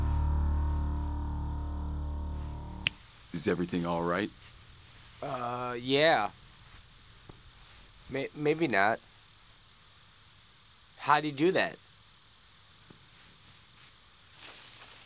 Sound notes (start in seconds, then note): 2.8 snap